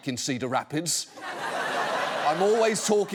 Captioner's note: audience laughs